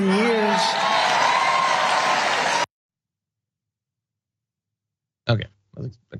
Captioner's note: applause